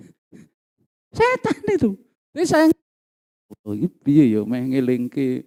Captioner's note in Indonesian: berdehem